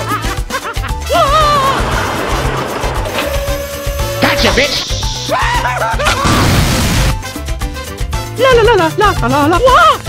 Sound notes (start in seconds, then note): 5.3 screams; 6.2 boom; 8.1 singing